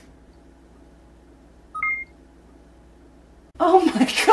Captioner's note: beep sound